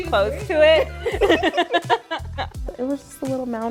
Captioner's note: people laughing